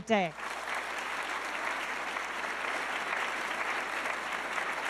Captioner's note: audience clapping